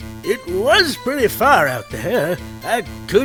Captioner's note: none